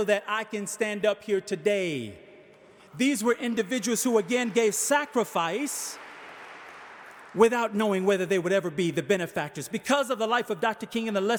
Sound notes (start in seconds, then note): 3.7 audience applauding